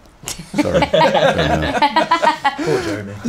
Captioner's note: laughing